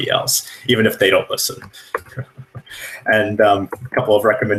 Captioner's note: laughs